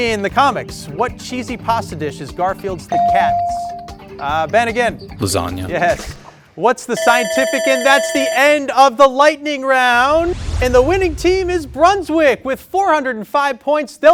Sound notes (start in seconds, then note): 2.9 bell sounding; 7.0 buzzer sounding